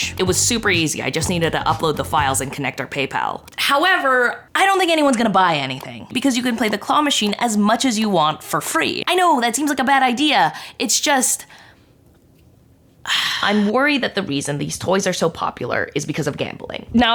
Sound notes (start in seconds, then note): 13.0 sighing